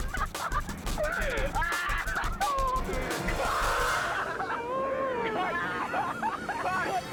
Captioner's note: teenagers continue laughing